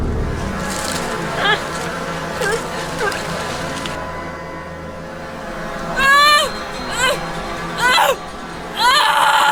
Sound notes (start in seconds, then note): 1.4 woman grunting